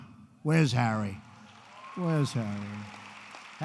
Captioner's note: applause